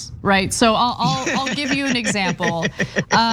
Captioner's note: laugh